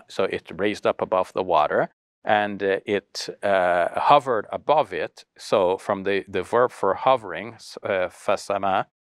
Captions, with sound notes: So it raised up above the water and it hovered above it. So from the verb for hovering, (speaks foreign language).